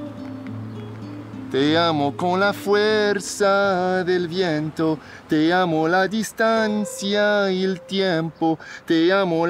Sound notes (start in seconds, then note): 0.7 Alejandro speaking Spanish